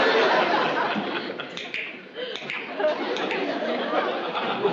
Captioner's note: clicking